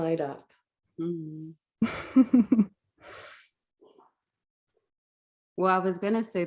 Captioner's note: laughs